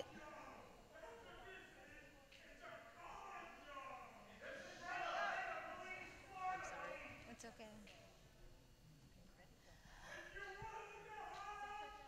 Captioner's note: yelling